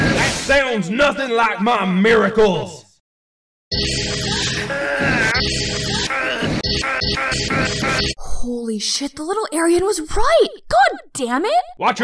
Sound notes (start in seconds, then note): 3.7 miracle sound